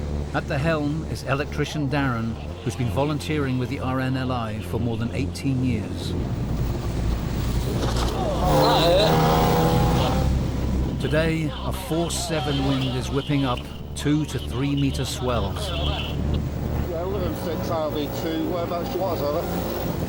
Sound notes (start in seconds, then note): 6.0 boat pounding; 6.0 water whooshing; 7.5 crew grunting; 7.9 boat droning